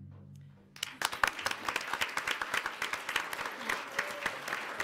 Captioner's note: audience applauds